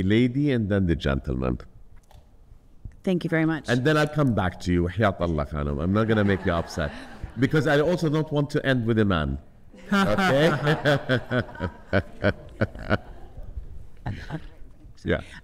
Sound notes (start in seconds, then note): 4.9 speaking foreign language; 9.8 audience laughing